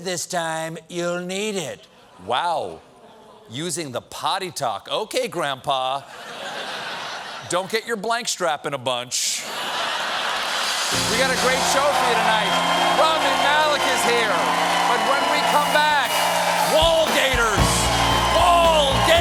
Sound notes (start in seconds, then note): 10.9 applause; 10.9 laughter